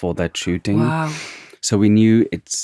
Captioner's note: scoffs